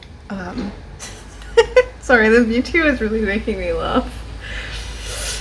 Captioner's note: laughs